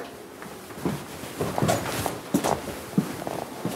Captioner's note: thud footsteps recede